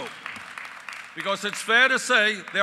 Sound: applause

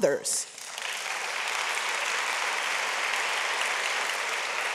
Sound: audience applauds

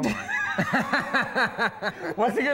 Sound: both burst in laughter

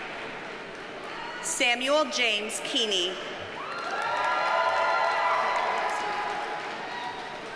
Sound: audience cheers and applauds

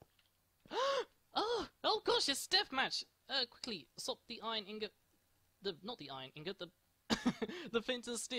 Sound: gasp

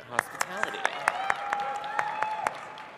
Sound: cheering

